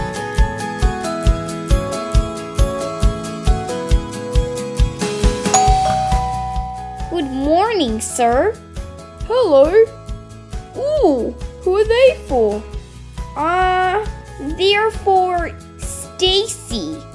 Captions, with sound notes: Barbie - Annabelle's Valentines Day Mix-up (Doorbell) Good morning sir Hello Oooh, who are they for? Aaaahhh, they're for ... Stacie?